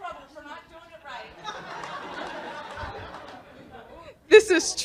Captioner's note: laughter